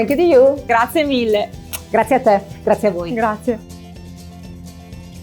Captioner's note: speaking in foreign language